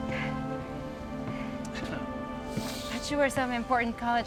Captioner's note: Tommy laughs out of breath